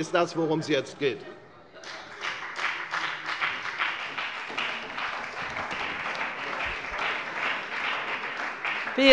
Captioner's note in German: Beifall bei der FDP und bei Abgeordneten der SPD